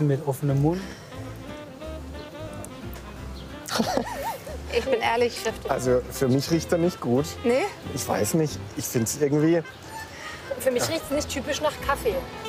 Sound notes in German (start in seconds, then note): 1.9 Verspielte Musik; 3.6 lacht